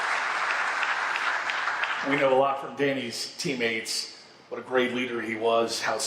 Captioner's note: applause